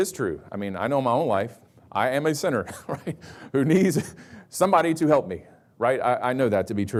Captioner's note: chuckles